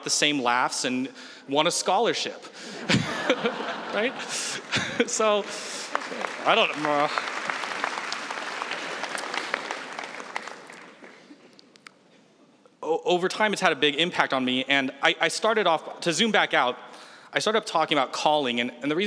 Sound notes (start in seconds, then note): 2.8 laughs; 6.6 applause